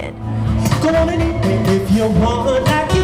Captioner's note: vocalizing